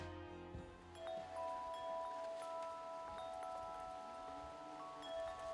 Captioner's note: wind chimes